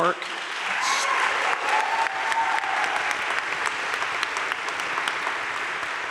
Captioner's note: audience cheering and applauding